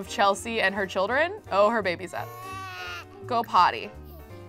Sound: baby cries

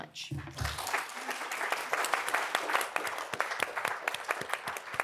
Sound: audience applauds

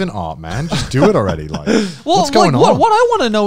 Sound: laughing

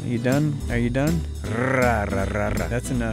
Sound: purring

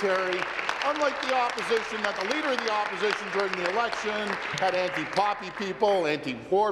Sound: applause

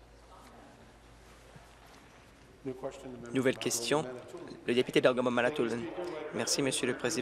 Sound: conversation din

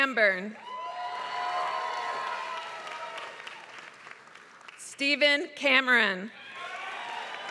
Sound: applause; applause

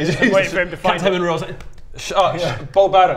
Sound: slap slap

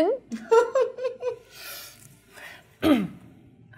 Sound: laughs

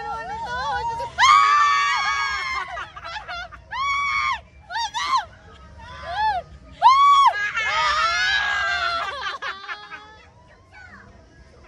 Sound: panics; screaming, laughing, panicking

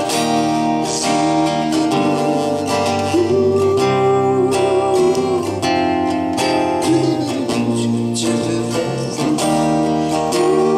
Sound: humming

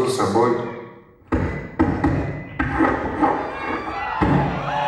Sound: sounds of the ball

